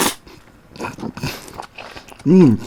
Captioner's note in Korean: 우걱우걱